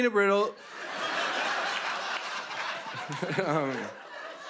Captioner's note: laughter